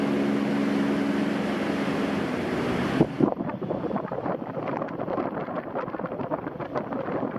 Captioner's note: dmh60 wave cooler running